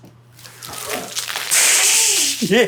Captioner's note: wine splashing; laughing